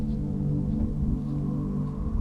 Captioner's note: wind blowing